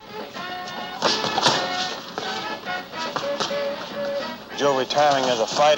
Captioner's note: fists thumping